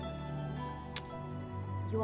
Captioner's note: Kisses